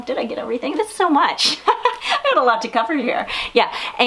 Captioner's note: giggles